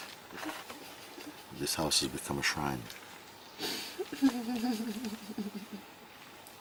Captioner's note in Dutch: huilt